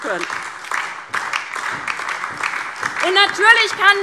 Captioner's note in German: Beifall DIE LINKE und SPD